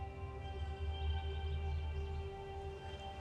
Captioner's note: birds chirp